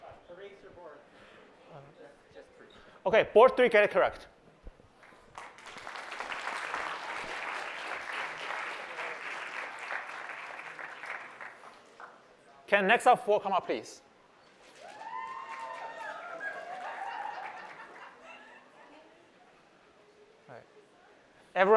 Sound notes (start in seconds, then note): 5.0 applause; 14.7 cheering